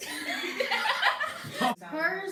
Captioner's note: laugh hysterically out of awkwardness